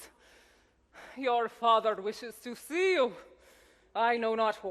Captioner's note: sighs